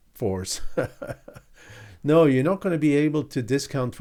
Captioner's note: laughing